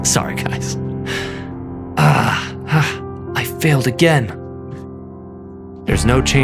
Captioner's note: sighs; clears throat